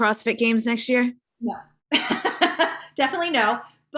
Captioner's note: chuckling